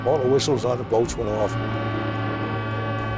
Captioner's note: ship horns blowing